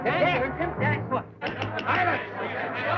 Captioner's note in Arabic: ضربات المطرقة